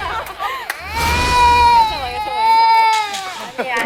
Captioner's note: screams / Waaaaah